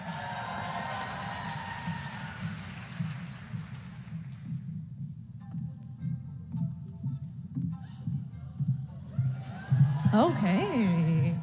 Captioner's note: applause